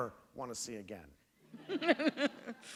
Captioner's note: laughter